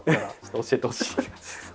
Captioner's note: laughs